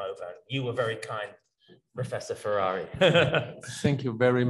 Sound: laughs

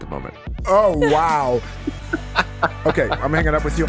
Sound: laughs

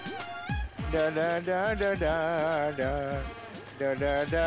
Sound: humming

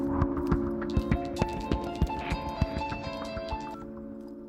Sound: phone rings

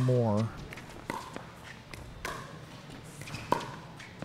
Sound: ball bouncing

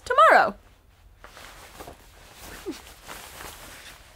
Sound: jacket crinkling

